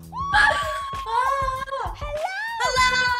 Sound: laughs

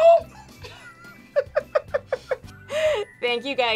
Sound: both laugh

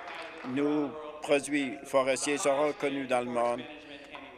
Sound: applause

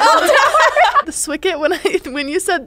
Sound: laughing together

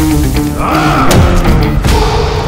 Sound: roars

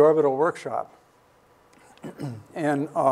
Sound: clears throat

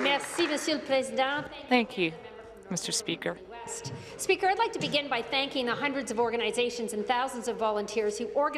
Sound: applause

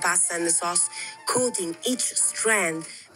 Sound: foreign language

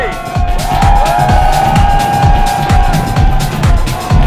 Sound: loud cheering

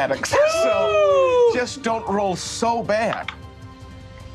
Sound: die rolling

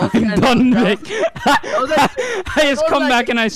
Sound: laughter

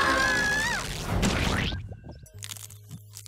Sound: loud splat

